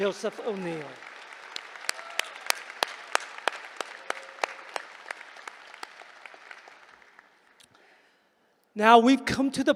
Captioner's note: applause